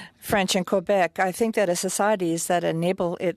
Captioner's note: speaking French